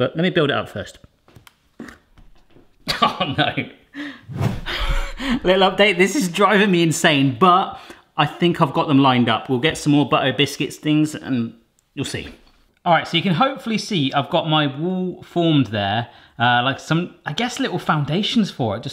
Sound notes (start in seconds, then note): 4.7 laughing